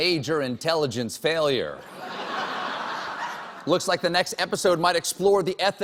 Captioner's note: laughter